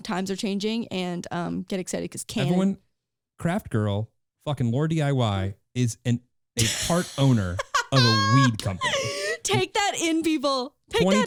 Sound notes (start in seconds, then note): 6.6 laughing